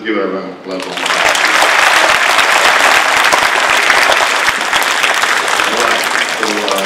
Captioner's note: audience applauding